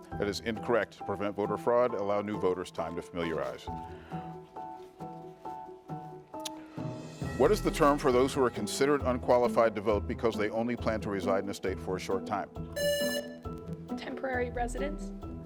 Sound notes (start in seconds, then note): 4.6 pensive music continues; 12.8 buzzer rings